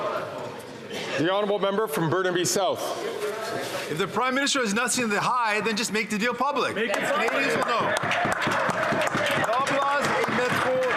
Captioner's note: some Applause